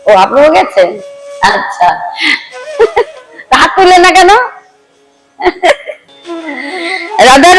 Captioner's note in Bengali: সশব্দ হাসি